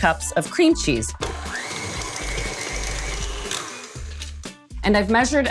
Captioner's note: mixer whirring